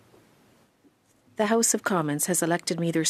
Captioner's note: speaking French